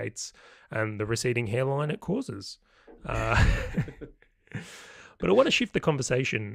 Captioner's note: laughing